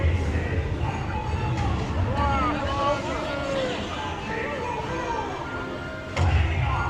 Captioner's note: chatter and piratey chanting; ride noises